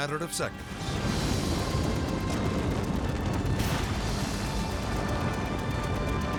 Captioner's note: building crashing; explosion booming